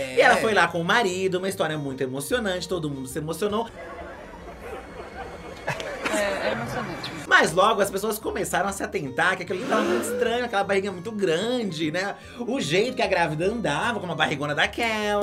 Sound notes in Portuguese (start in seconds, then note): 3.7 risos